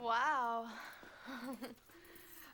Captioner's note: chuckling